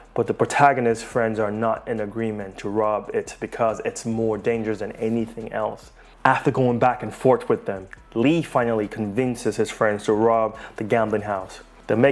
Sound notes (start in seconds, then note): none